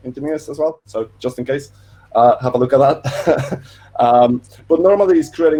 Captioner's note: laughing